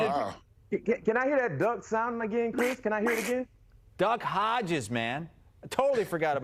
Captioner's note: quacking